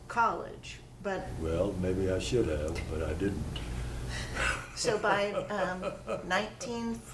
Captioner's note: laughter